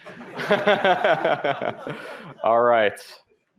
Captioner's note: laughter